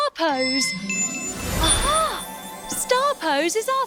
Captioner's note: magic chime